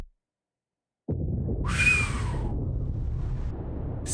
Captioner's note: whistles